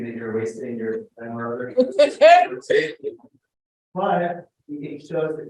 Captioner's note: laughs